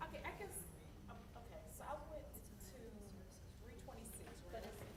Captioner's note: voiceover